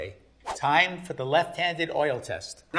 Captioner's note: air whooshing